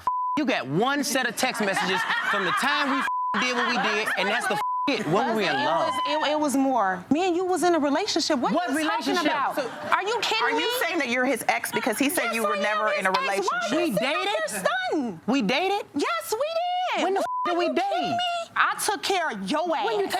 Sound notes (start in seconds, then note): 0.2 beep; 17.2 beep